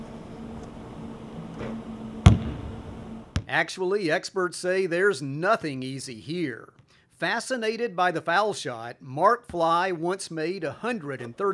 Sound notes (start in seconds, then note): 2.2 sound of basketball bounding